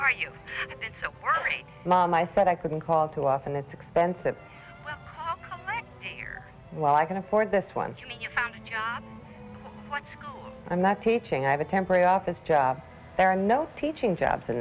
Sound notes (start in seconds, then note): 5.0 on phone; 8.2 on phone